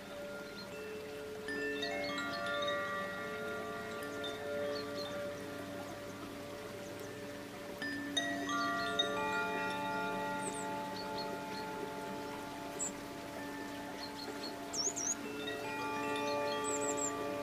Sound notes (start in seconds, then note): 1.2 bells lightly chiming; 1.2 water babbling